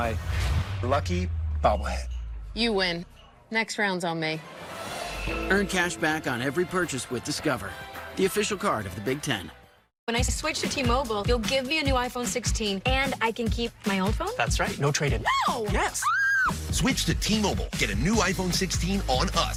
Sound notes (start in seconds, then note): 15.8 screams